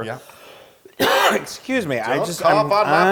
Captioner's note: cough